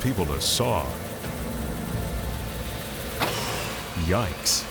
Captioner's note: saw buzzing